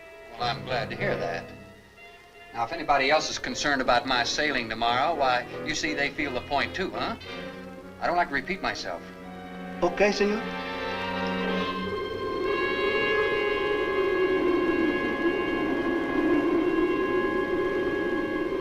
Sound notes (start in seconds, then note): 10.4 wind howls; 11.3 dark music continues